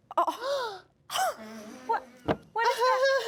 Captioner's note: Glinda-Era Ariana laughs